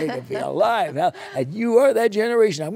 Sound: laughter

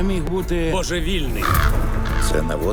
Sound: bird caws

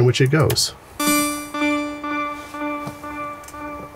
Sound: echoing

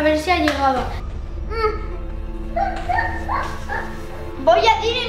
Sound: crying

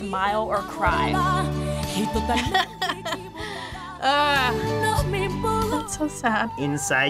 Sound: laughs

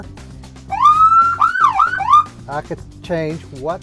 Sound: siren blaring

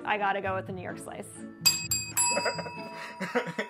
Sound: bells ring; laughs

